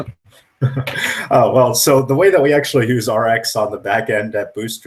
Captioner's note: laughs